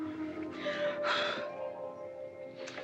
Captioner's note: blowing